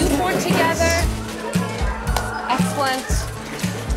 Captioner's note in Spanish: niños conversando